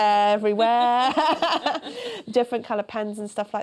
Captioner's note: laughter